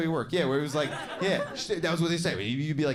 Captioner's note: audience laughing